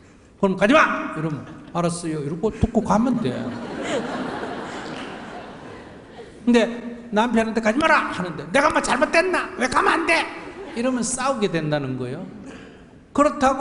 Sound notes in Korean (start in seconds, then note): 3.2 청중과 질문자 웃음